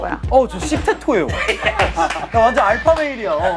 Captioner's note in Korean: 웃음